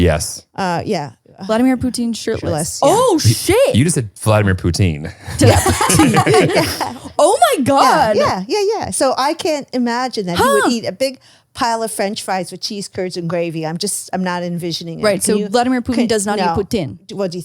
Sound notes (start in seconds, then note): 5.0 all laughing